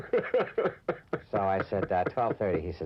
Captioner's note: reporter laughing